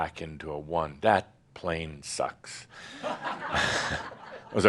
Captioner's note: laughter